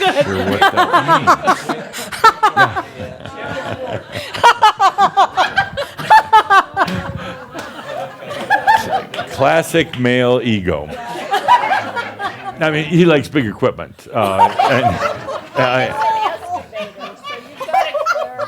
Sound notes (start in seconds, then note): 0.0 laughing loudly; 0.8 she continues laughing; 7.2 laughter continues; 10.3 laughter